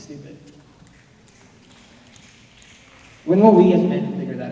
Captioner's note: snapping